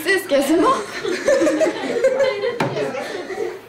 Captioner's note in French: rires